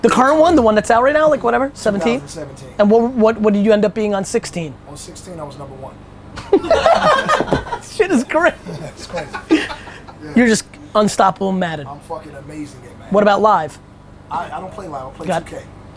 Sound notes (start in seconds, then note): 6.4 group laughter